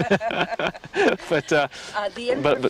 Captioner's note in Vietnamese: cười